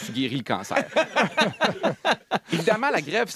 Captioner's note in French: rires